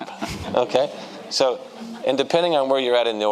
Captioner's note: audience laughing